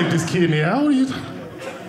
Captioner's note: audience laughing